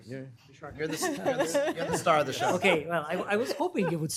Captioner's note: laughter